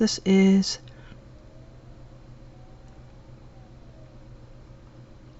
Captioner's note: silence